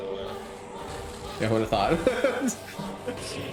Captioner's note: laughs